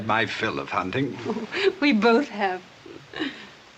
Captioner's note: gentle laugh